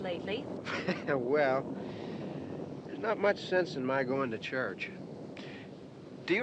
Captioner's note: chuckles